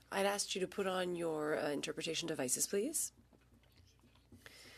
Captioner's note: speaking French